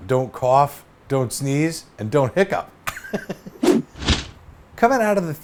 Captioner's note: laughs